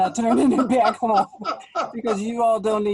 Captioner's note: laughs